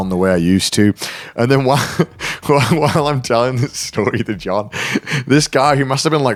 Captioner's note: chuckles